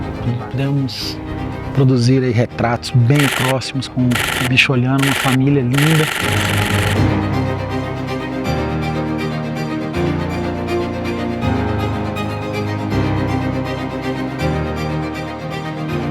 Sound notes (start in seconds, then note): 5.0 shutter noises